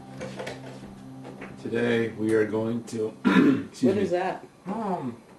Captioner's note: clears throat